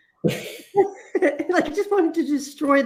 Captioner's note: laughter